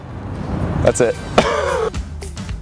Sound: laughs

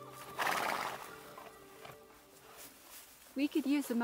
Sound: horse neighing

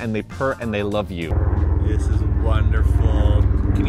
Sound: helicopter whirring overhead

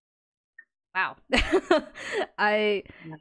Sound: laughs

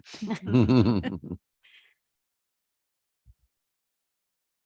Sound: members chuckling

